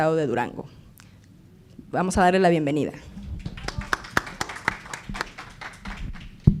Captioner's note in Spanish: Aplausos